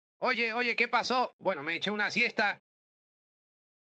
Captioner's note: deputy stammers